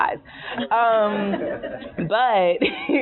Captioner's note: laughing